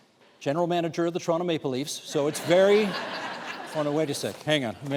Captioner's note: laughter